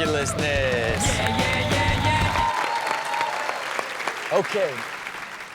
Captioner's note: audience cheers